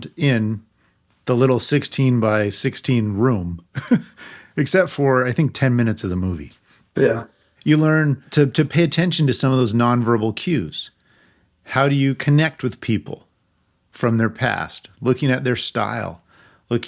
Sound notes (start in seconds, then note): 3.8 laughing